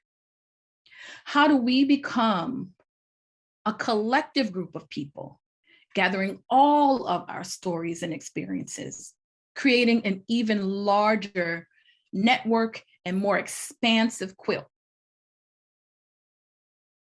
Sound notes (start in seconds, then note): none